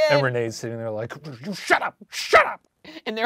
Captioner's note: laughing